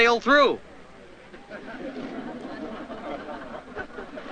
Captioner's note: crowd laughs